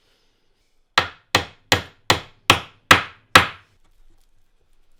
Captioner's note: hammer banging